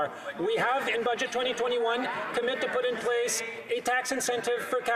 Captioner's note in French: voix de l'interprète